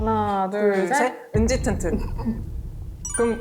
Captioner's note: answer already decided sound effect